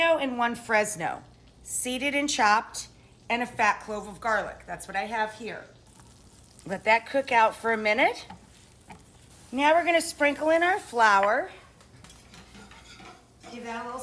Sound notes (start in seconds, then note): 6.0 food sizzling in pan